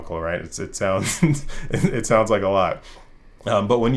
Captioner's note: rires